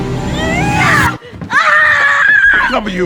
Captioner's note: screaming